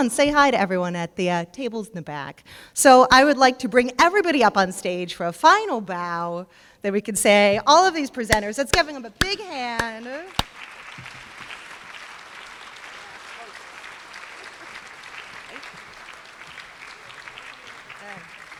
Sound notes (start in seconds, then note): 10.7 applause